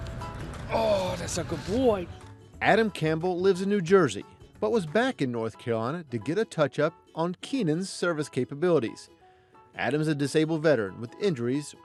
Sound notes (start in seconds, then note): 2.8 voiceover